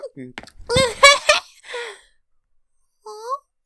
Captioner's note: giggling